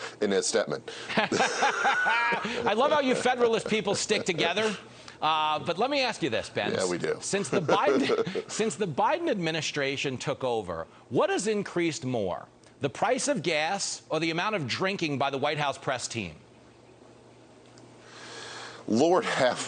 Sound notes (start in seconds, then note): 9.4 laughter